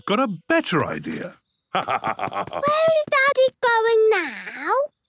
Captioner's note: laugh